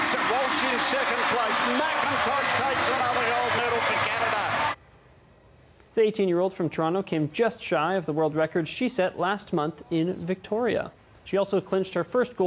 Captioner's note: cheering and applause